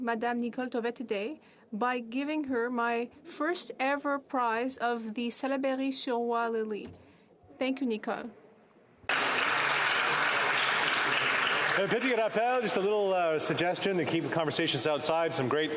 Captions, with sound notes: WITH GREAT ADMISSION ADMIRATION AND DEEP FRIENDSHIP, I AM ALSO CELEBRATING HER TID BY GIVING HER MY FIRST EVER PRIZE OF THE [Speaking French] THANK YOU, NICOLE.